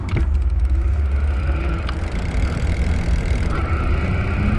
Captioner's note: wheel pattering